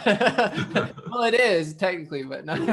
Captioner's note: laughing